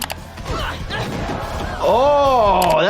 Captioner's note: Meg groans